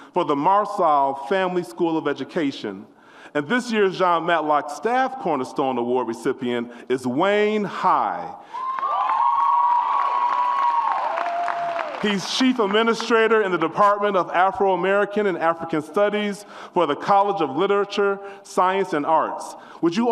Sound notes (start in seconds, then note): 8.5 audience applauds and cheers